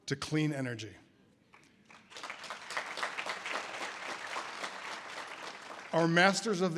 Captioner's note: audience applause